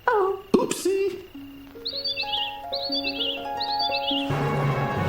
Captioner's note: birds tweeting; harp chiming; foreboding music